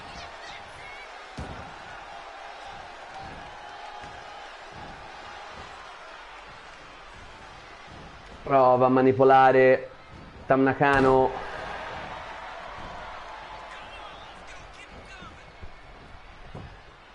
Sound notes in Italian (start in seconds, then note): 7.0 Applauso